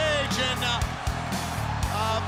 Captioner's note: crowd cheering